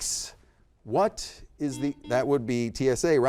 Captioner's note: buzzer beeps